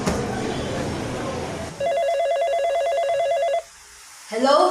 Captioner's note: phone ringing